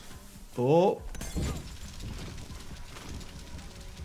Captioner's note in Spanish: música dramática; granada de mano explotando; fuego crepitante